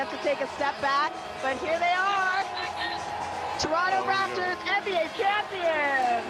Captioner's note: cheering